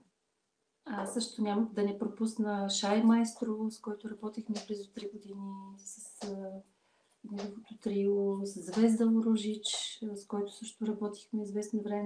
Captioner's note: foreign Language followed by English Interpreter